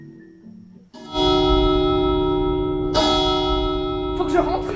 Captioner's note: sounds of bells